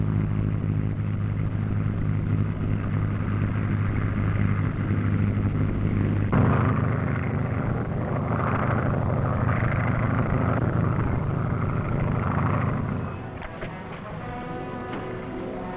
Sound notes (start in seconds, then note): 6.4 engine droning; 13.1 tense music